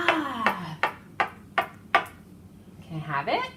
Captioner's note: crayon tapping on the table